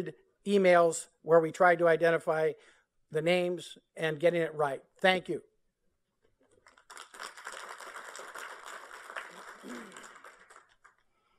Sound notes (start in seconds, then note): 6.6 applause